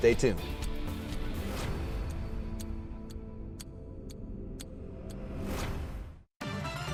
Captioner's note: dramatic music; clock ticks; dramatic music